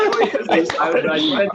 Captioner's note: laughter